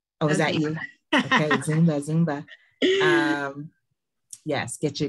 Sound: laughing

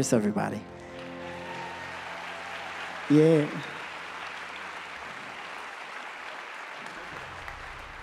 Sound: audience applause

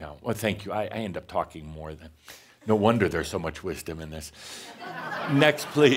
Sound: laughter

